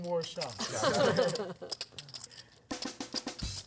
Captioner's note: laughter; upbeat jazz music